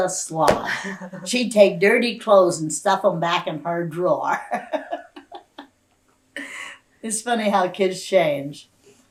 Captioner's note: laughter; laughs